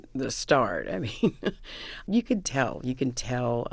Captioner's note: laughter